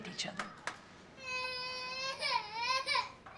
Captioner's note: Lucia crying